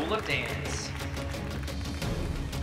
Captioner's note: applause; intense music